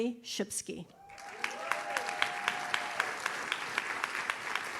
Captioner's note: audience cheers